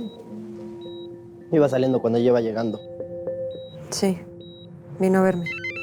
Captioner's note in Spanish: Suena el celular